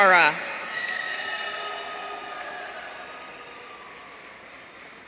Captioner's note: audience cheering